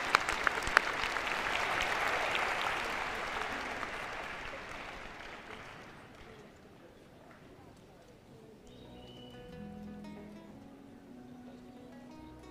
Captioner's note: applause